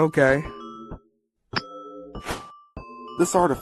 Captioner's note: clink, woosh